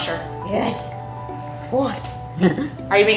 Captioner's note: laughs